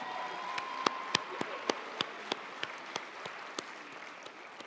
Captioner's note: audience applauding